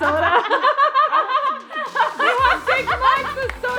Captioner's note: all laughing